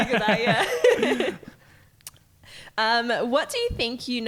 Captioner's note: laughing